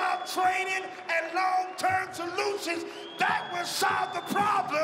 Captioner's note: cheering and applause